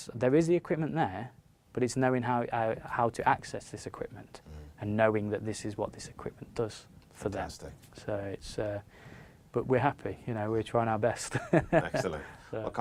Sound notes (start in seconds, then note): 11.4 laughs